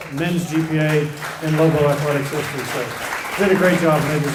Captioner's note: applause